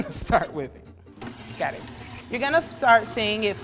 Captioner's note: laughs; mixer whirs